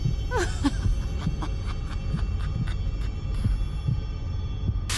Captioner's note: sinister laughter